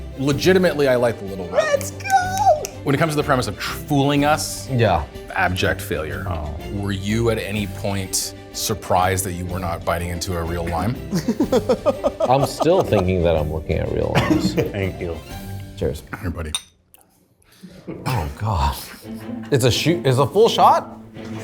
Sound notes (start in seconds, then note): 16.5 glasses clink